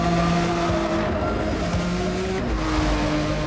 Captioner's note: engines whirring